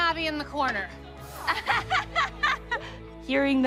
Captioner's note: laughs